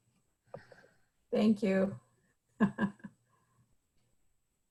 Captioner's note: laughs